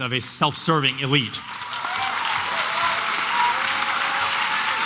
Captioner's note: applause and cheering